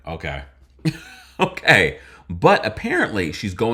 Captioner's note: chuckles